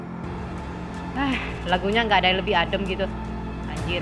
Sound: heavy breathing

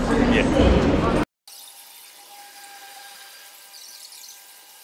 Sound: audio buzzing

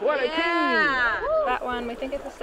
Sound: cheers

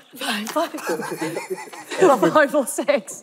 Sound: laughing

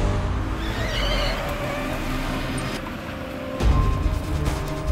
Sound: brakes screeching

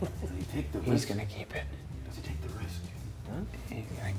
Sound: laugh

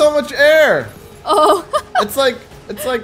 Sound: laughs

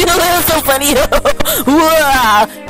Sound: inhale

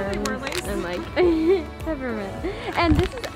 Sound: laughs

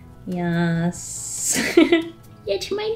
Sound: laughs

